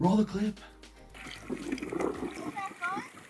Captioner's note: wind whooshing